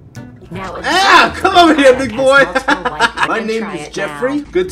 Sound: laughs

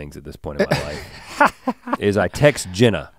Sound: Link chuckles

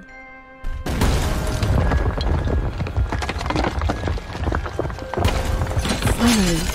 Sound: crashing Noises

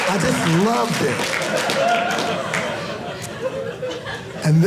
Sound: audience cheering

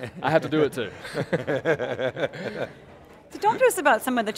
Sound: laughing

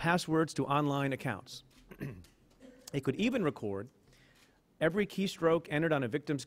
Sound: clears throat

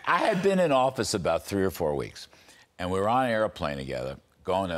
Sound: laughter

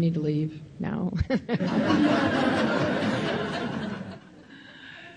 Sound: laughing

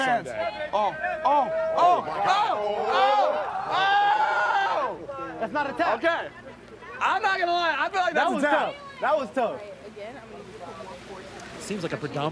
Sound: fans chanting "baylen, baylen!

